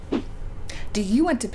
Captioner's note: whoosh